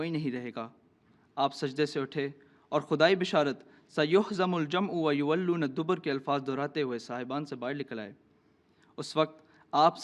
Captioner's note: Arabic